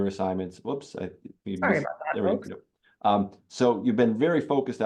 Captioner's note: faintly speaking